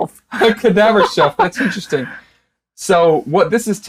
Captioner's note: laughing